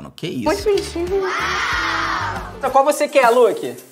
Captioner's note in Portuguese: som de plateia falando "uau"